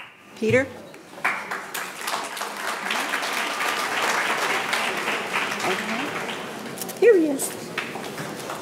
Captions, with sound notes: Peter? (audience applauding) Okay. Here he is.